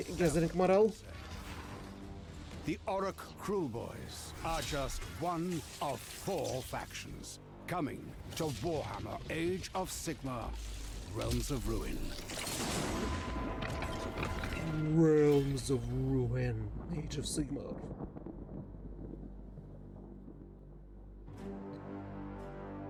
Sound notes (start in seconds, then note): 11.6 explosion; 18.5 thunder rumbling